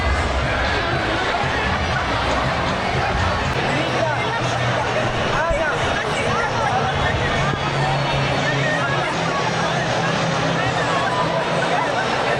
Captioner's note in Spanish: ovación